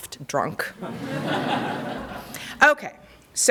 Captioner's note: laughter